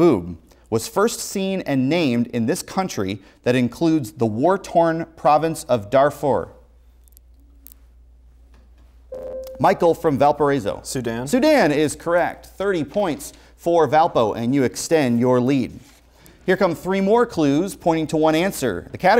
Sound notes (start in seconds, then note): 9.2 buzzer